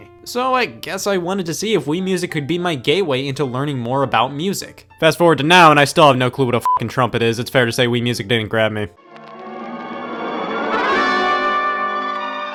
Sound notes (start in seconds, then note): 6.6 beep; 8.9 old-timey music